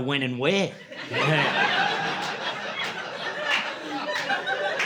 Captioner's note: laughter